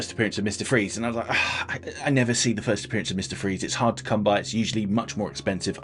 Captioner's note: sighs